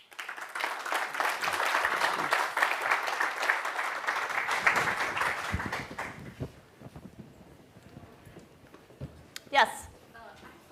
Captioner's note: applause